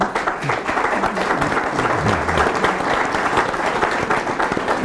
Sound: attendees applauding

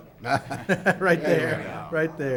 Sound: laughs

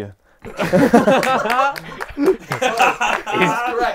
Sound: people laughing

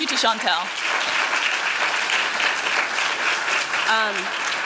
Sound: applause

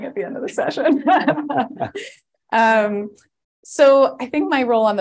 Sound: laughter

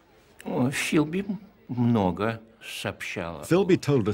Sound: man speaking Russian

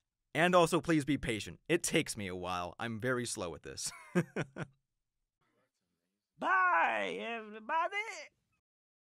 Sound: laughter

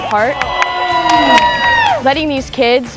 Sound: students cheering

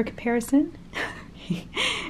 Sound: giggles

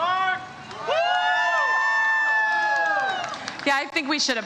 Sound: audience cheers

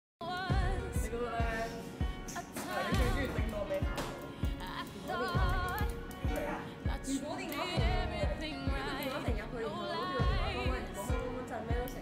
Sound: chit chatting

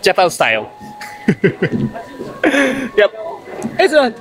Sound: laughs

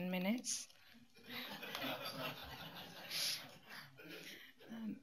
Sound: laughter

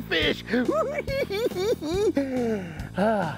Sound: cackling

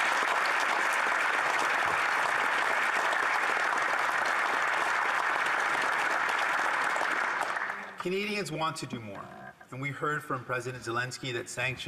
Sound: applause

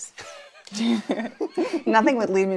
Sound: laughter

